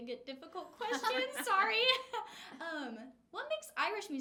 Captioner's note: laughing